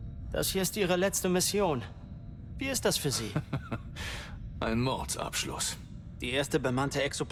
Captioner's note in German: gelächter